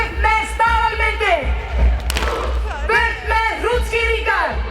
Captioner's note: women speaking icelandic